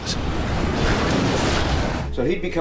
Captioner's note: plane crashing